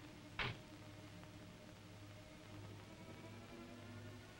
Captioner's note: car door bangs shut